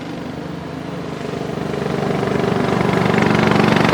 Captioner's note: tractor engine running